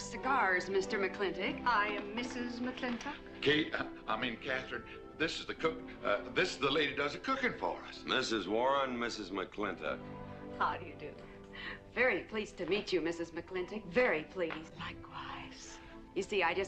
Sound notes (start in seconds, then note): none